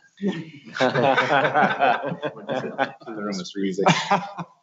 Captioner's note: laughter